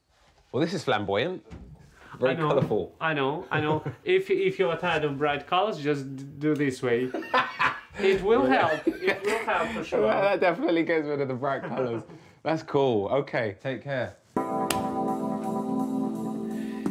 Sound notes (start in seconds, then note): 7.0 laughing; 14.3 calm music